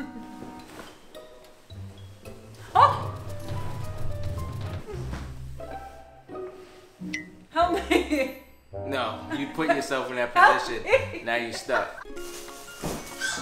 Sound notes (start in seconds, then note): 0.2 laughs; 3.8 intense music; 5.0 silly music; 8.4 laughs; 10.4 laughs